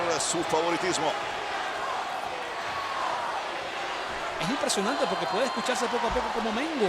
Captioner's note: applause